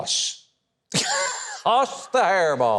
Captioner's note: laughs